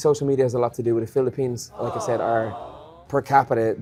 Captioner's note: aww sfx playing